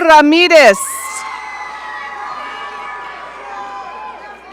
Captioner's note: audience cheering